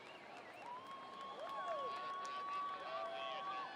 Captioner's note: cheering